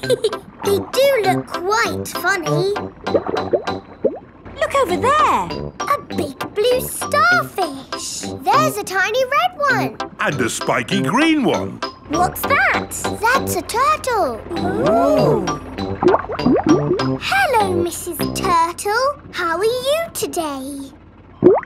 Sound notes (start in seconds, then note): 0.0 laughs; 15.2 bubbling